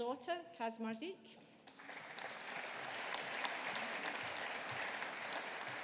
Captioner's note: audience applauding